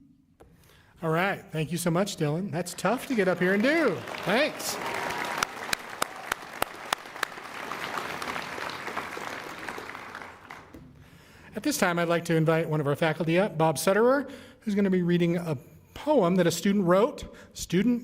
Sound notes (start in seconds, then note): 9.3 applause